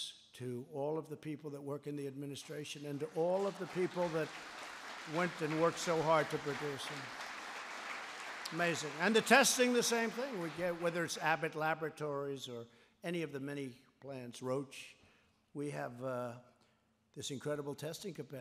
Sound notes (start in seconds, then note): 7.5 applause